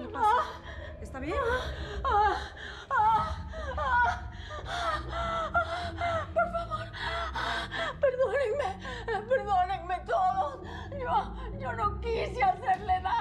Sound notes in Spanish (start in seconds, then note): 0.0 Quejidos de Rosaura; 3.4 Rosaura sigue quejándose